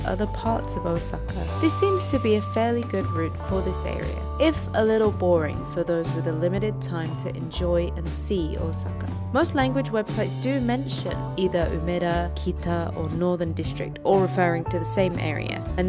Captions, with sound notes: other parts of Osaka this seems to be a fairly good route for this area if a little boring for those with a limited time to enjoy and see Osaka most **English** language websites do mention either Umeda Kita or Northern District all referring to the same area